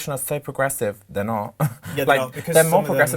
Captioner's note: chuckles